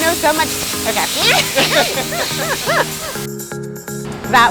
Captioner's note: laughs